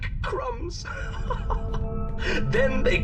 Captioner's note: laughs